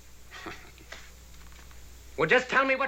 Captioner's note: chuckles